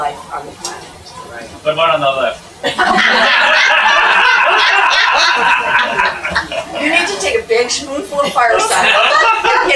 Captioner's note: laugh